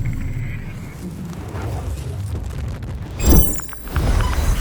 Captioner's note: fire whooshes; electronic buzzing